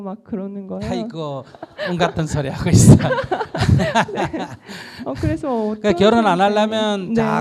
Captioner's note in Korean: 질문자 웃음